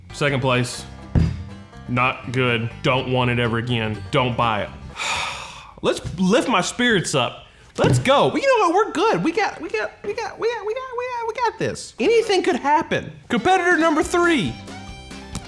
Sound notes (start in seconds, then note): 1.2 jar thumping; 4.9 sighing; 9.8 stammering; 13.2 upbeat country music